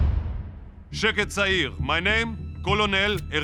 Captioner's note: speaking Hebrew